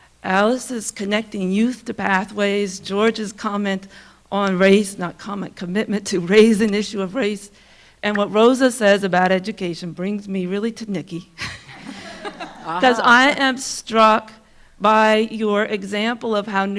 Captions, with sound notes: Alice's connecting youth to pathways, George's comment on race, not comment, commitment to raise an issue of race, and what Rosa says about education brings me really to Nicky. (audience laughing) 'Cause I am struck by your example